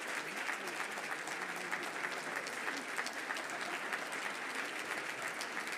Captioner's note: audience cheering and applauding